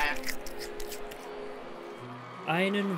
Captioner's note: cheers